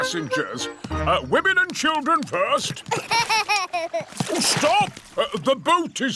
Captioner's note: laughs